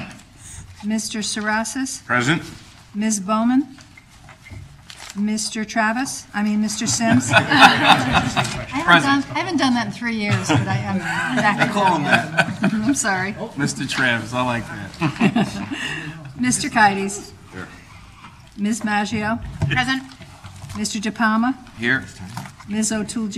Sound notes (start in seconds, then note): 6.8 laughter